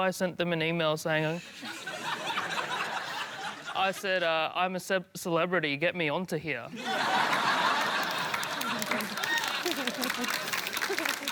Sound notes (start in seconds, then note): 1.5 laughter; 6.7 laughter, applause